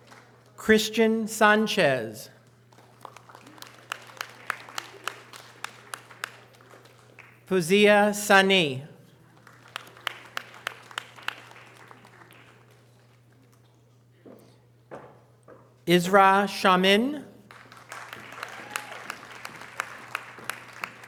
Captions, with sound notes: Christian Sanchez. (audience applause) Fozia Sonny. (audience applause) Ezra Shaman. (audience applause)